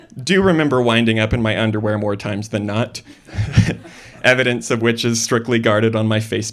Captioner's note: laughter